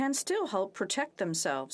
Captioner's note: speaking French